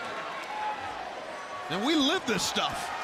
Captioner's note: crowd chattering